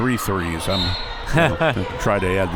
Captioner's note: whistle